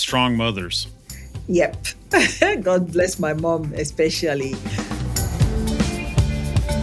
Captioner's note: laugh